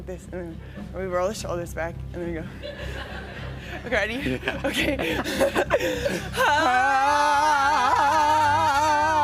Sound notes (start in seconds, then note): 4.2 chuckling